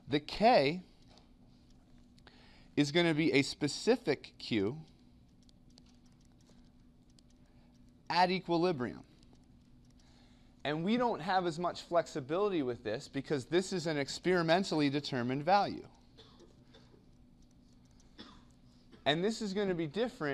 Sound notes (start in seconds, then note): 18.1 cough